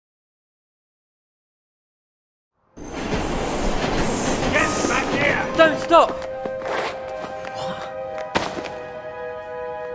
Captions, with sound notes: (train shuddering) - Get back here! - Don't stop. (exhaling)